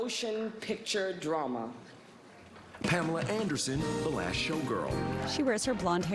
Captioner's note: applause